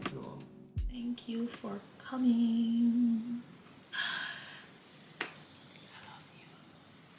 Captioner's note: whispers